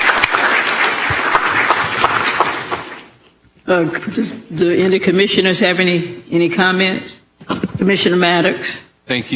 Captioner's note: applause